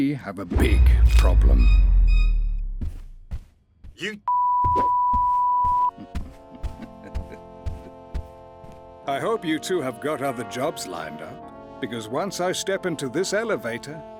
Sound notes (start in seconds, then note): 0.5 horror strings; 6.4 Nedward chuckles